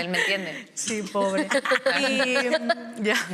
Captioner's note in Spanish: Risas